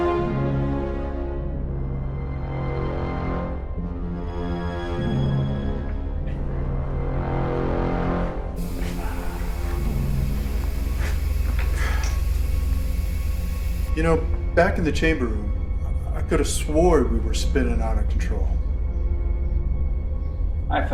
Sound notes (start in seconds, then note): 0.2 rousing atmospheric music; 8.6 spaceship whirring; 19.5 ominous atmospheric music